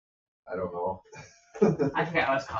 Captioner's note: chuckles